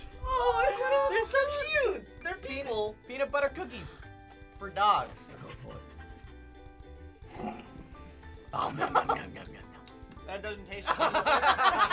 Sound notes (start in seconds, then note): 5.1 panting; 7.2 slow-mo gulp; 8.6 chuckles; 10.8 laughter